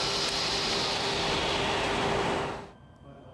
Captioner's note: machine shuts down